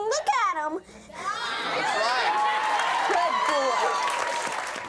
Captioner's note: audience applauds